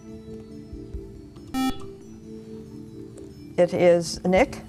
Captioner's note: beeping